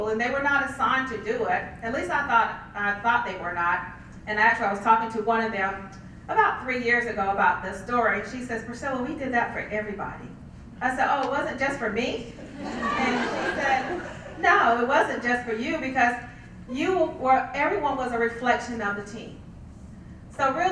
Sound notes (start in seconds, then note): 12.4 laugh